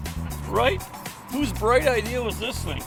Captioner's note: people laugh